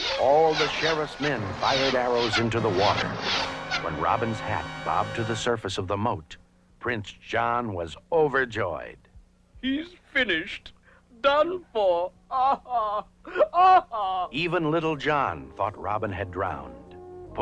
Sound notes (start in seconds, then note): 12.2 laughs